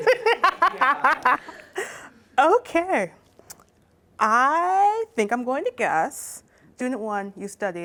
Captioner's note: laughs